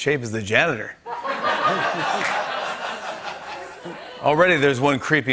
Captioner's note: laughter